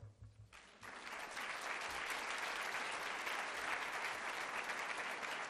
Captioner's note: applause